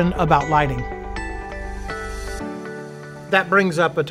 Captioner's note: bright chiming tones